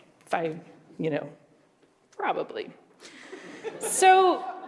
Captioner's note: laughter